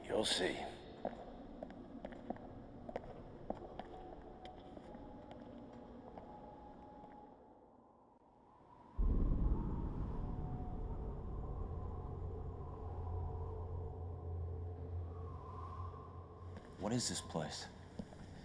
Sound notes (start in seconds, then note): 7.5 wind howling; 9.1 thunder booming